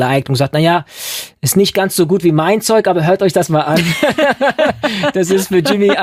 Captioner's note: laughing